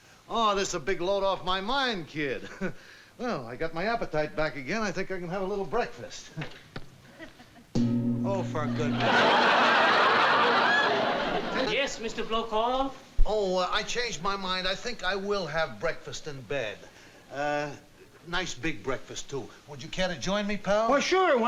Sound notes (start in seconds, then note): 2.4 chuckles; 7.2 loud bang